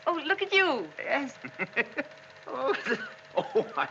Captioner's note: maxim laughing